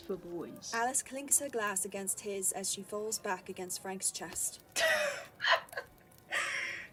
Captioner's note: Alice cackles